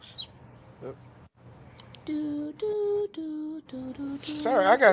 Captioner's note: humming